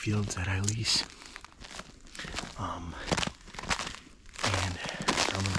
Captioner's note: snow crunching